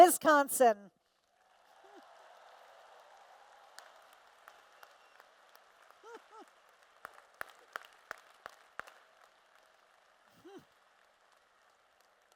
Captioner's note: applause and Cheers